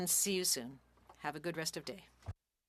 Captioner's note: speaking French